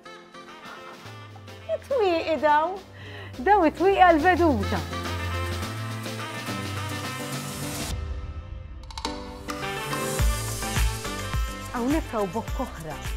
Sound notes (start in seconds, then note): 2.8 gasps; 5.2 uplifting music